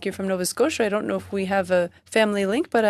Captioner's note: speaking French